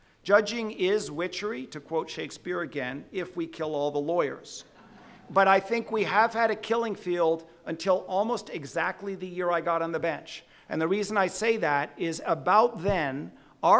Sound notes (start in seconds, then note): 4.7 audience laughing